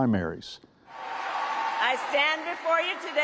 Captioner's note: audience cheering